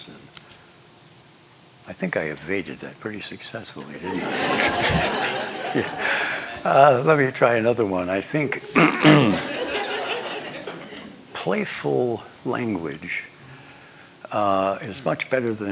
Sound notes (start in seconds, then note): 3.9 laughter; 8.3 laughter